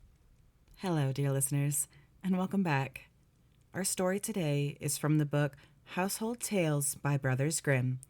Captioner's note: quiet fireplace crackling ambience